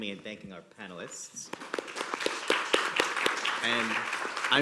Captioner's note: applause